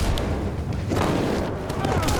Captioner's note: thud; rifle shot fired; thud, groans